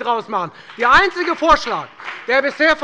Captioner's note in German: Beifall bei der FDP